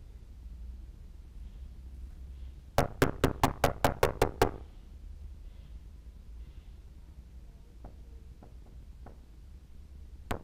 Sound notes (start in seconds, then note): 2.8 loud knocks